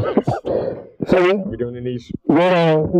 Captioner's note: both laughing